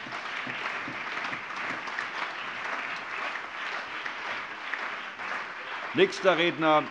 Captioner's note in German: Allgemeiner Beifall